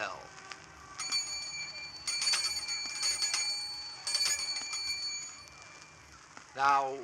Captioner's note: bells ringing